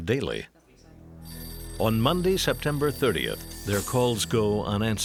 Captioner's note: phone ringing